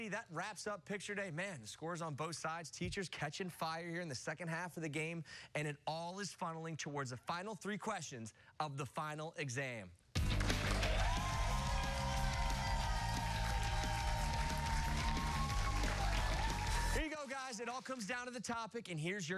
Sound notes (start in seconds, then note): 10.1 cheers and applause